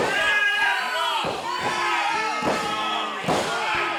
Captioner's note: crowd clamoring